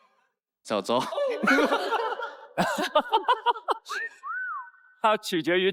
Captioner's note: haha